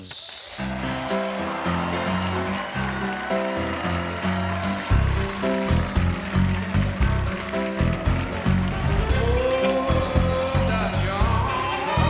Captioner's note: applause